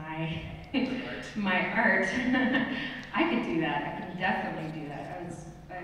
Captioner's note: laughs